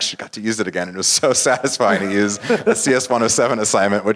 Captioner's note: laugh